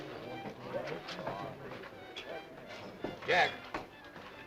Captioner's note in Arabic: الناس يتحادثون; موسيقى مشرقة